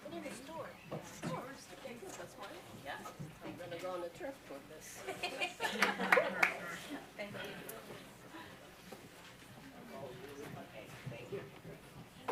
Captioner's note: applause